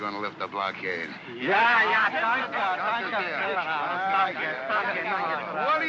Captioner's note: speaking excitedly in German